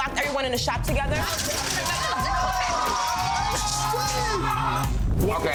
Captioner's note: every shouting